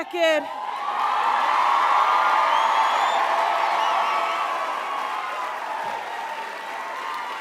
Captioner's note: crowd cheers loudly